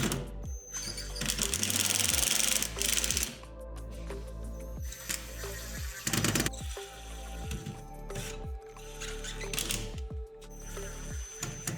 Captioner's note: drilling